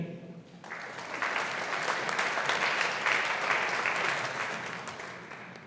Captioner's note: audience applauding